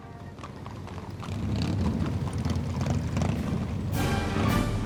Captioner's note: horse hooves clopping; engine roars; marching band music